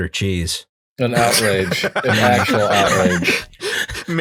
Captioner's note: laughter